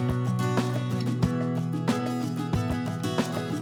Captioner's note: none